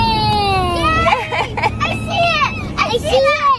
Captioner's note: laughs